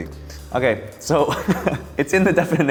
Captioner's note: laughing